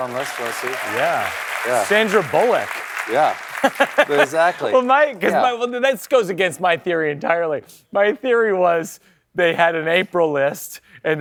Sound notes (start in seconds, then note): 3.4 laughs